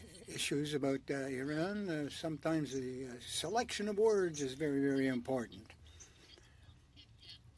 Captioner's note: speaking French